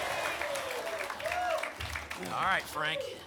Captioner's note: applause and cheering cont